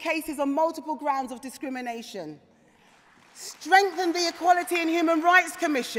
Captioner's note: applause